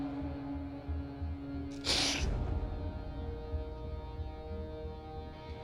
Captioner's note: sniffling